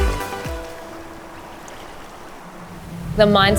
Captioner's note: water trickling